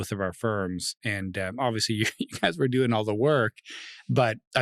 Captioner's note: laughing; laughs